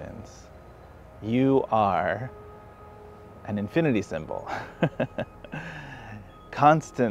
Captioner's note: laughs